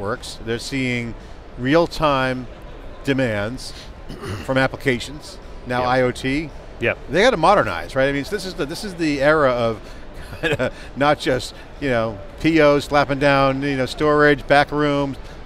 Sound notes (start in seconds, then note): 8.1 laughs